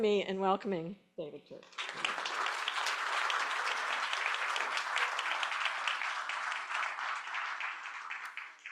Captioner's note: applause